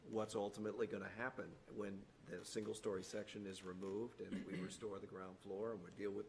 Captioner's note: clears throat